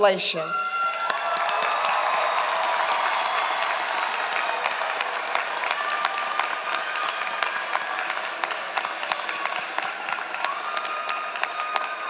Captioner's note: applause and Shouting